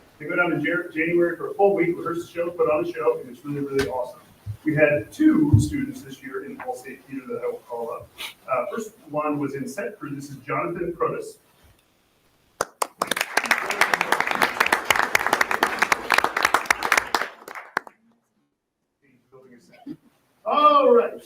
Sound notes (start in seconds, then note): 12.6 audience applauding